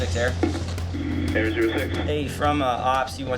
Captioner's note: man Over Radio